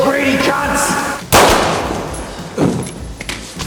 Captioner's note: gun firing